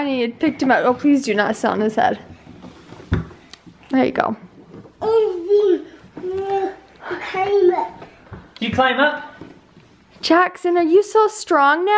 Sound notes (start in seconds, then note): 6.2 babbling